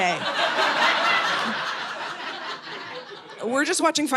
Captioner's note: audience laughing